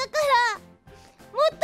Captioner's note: sniff